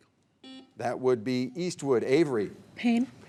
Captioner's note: buzzer beeping